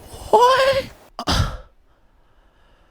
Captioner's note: baffled sigh